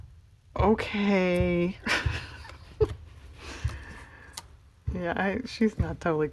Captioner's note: laughs